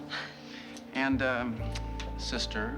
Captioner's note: laughs